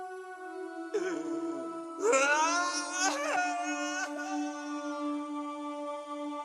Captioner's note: anguished cry